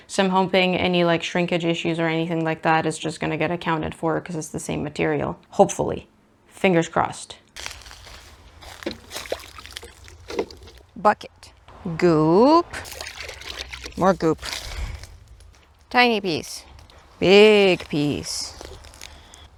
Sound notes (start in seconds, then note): 7.5 fir cones crunching and water sloshing; 13.0 water sloshes